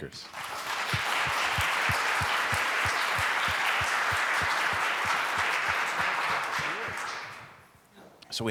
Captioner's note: applause